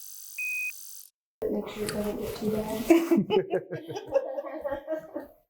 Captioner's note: off screen laughter